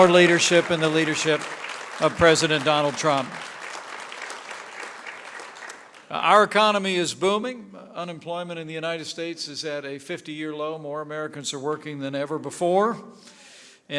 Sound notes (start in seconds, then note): 3.3 applause